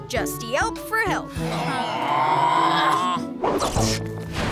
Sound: groaning

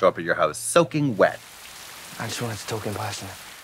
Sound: rain pouring

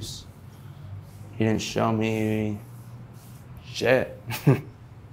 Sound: laughing

